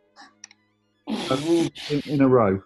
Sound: splutters

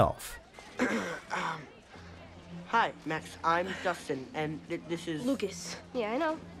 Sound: clears throat

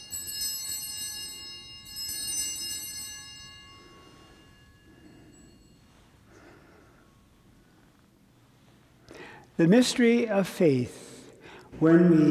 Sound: bellringing

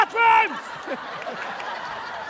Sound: laughter

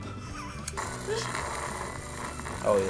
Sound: laughs; slurps

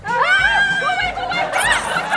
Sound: all pretending to scream

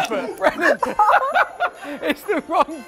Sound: laughter

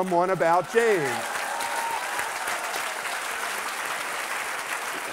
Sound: cheers and applause

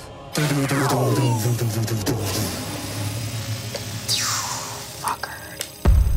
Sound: mimics electronics buzzing

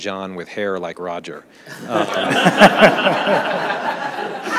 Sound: audience laughs

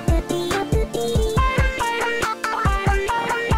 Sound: skid

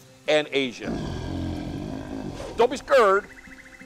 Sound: growling

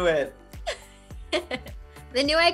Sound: Miranda laughs

